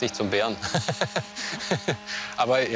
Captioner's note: laughter